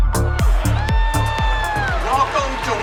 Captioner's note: crowd cheering